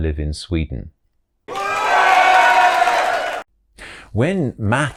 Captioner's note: applause